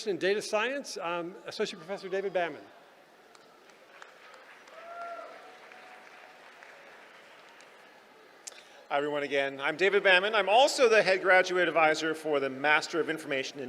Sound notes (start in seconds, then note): 3.6 applause